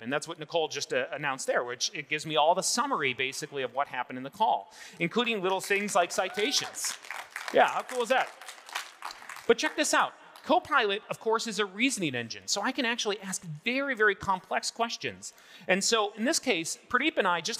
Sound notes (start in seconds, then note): 5.1 audience applauding